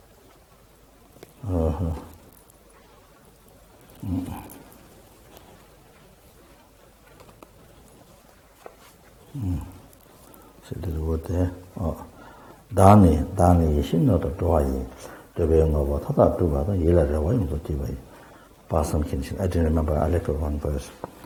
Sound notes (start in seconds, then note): 4.2 pause; 8.0 tibetan